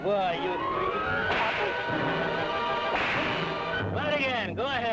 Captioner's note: whip cracks; whip cracking